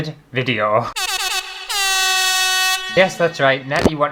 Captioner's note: air horn!!